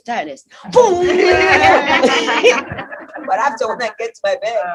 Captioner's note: laughter